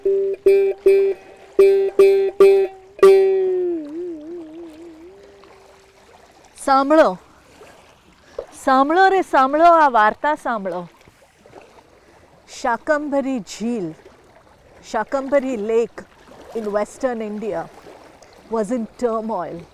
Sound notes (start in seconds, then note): 6.6 speaking in foreign language